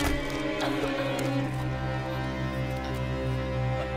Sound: hand bangs; Mandi coughs

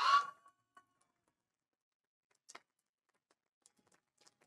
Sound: audience cheering

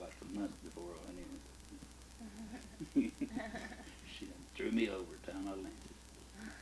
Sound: both chuckle

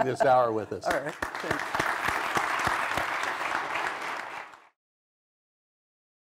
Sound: applause

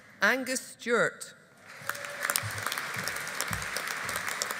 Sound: audience applauding

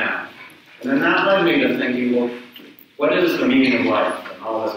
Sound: speaks away from mic

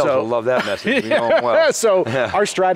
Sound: laughs

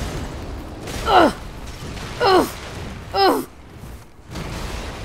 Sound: grunting

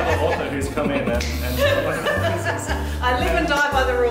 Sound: laughter

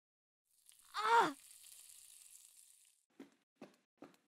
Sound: gasping

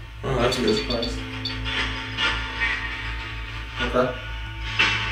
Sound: radio noise hissing

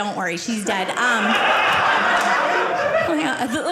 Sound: audience laughing

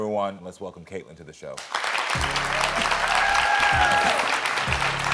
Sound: audience applauding

